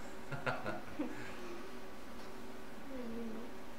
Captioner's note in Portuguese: risos